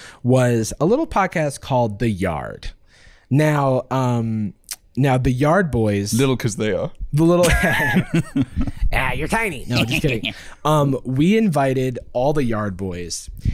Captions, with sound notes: was a little podcast called The Yard. Now, um... - Now, the Yard boys – - "Little" 'cause they are. The little – (laughing) You're tiny! No, just kidding. Um, we invited all the Yard boys,